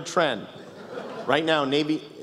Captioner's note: laughter